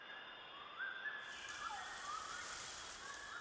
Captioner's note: birds calling